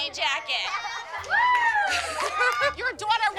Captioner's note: laughter